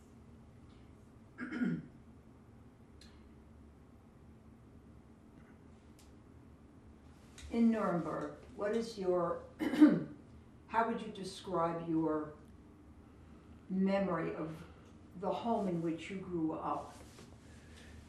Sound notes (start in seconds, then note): 9.6 clears throat